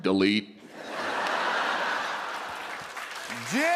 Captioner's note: laughter and applause